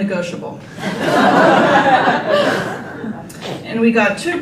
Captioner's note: group laughter